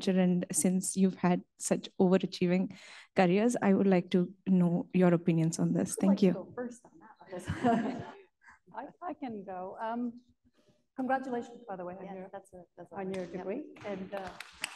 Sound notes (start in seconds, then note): 7.0 laughs